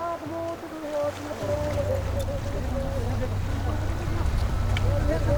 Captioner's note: speaking foreign language